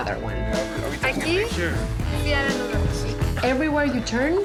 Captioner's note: pati speaking spanish